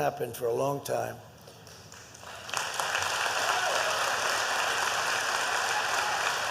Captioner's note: applause